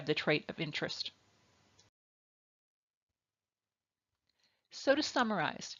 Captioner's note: silence